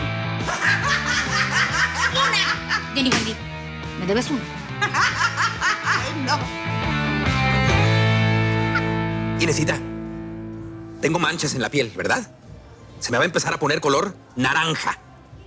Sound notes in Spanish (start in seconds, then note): 0.4 Carcajada; 4.7 Carcajada; 7.8 Risas